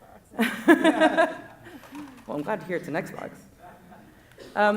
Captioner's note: laughing